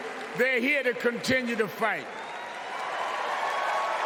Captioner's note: cheers and applause